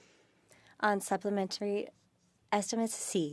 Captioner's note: speaking French